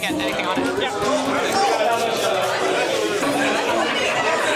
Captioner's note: chatter